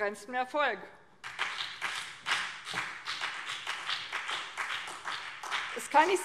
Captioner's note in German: Beifall